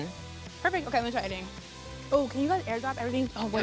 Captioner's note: overlapping chatter